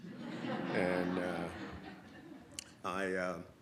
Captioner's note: audience laughs